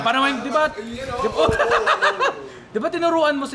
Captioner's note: laughs